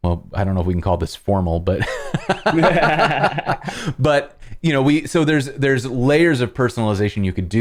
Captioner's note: laughter